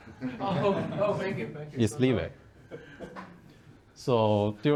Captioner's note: laughing